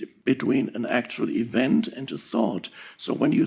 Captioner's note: none